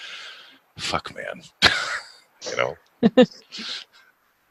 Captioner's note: chuckles; laughs